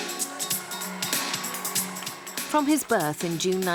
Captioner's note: cheering; delightful music